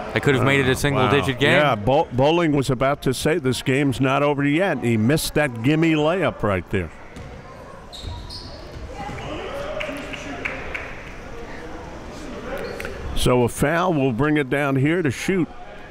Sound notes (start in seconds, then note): 9.0 cheering and clapping